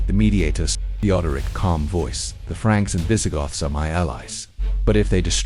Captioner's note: calm voice